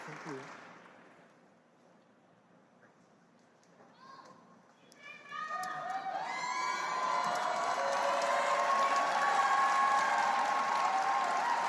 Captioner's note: cheers and applause